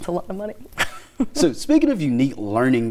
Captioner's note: laughing